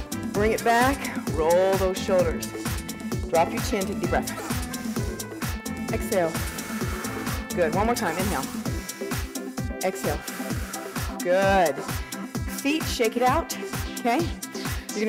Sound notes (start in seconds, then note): 4.5 breathing; 8.6 breathing